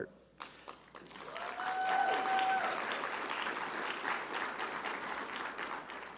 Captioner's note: audience applauding; audience cheering